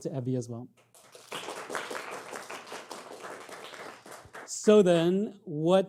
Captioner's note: audience clapping